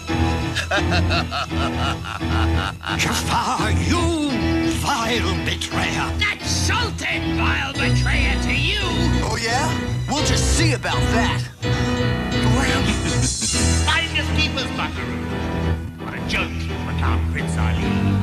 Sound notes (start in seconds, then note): 0.0 jafar laughs; 11.7 gasps; 12.7 jafar laughs